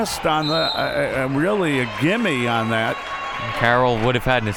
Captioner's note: whistle